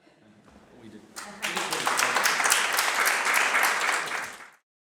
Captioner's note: applause